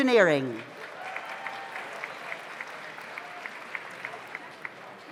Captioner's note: audience applauds